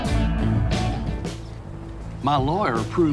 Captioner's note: birds chirping